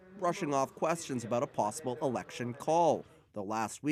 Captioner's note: speaking French